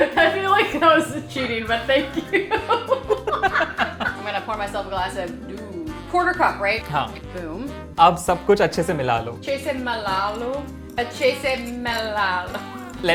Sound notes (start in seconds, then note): 2.0 both laughing; 8.2 repeating Hindi; 8.2 speaking in Hindi